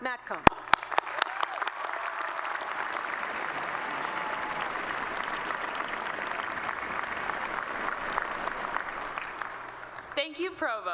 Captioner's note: applause